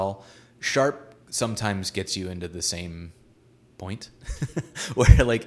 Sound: giggles

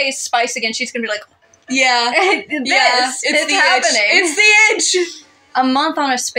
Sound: chuckle

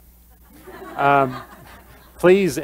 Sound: laughter

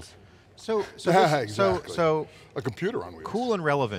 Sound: laughs

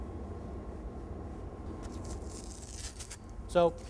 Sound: tape being peeled off

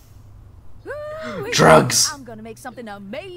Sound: gasp

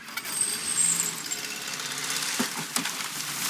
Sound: gate clangs

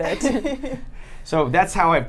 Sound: laughs

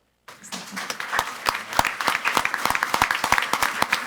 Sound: all clapping

